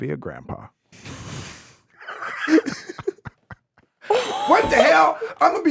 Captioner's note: everyone laughing